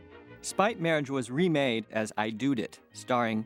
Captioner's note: none